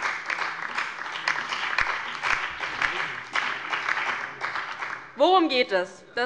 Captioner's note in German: Beifall bei der LINKEN und dem BÜNDNIS 90/DIE GRÜNEN